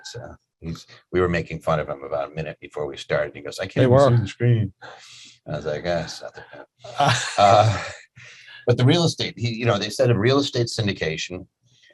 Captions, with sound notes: so we were making fun of him about a minute before we started. He goes, I can't-- - We were on the screen. - I was like eh, it's not that bad. (laughing) But the real estate, he, you know, they said a real estate syndication.